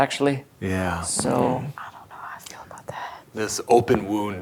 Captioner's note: whispers